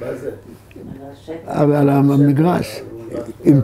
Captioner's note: in Hebrew